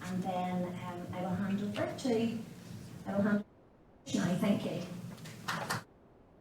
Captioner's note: applause